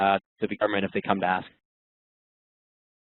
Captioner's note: voice muffled